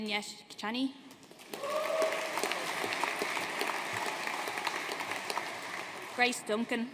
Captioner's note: audience cheering and applauding